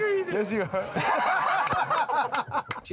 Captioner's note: laughter